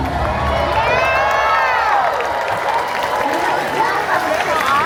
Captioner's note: guests cheering and applauding